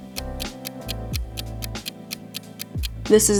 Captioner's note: clock ticks